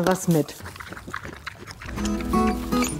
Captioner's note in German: Lautes Schmatzen